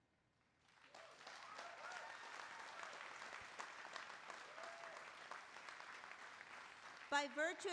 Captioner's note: applause